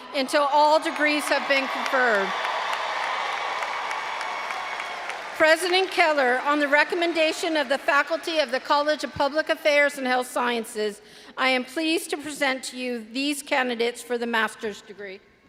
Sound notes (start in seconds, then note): 2.3 all applauding and cheering